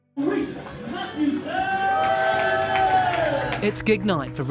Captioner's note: cheering, applause